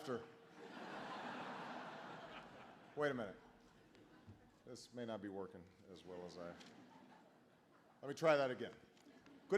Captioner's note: laughter